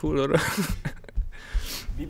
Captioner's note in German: lacht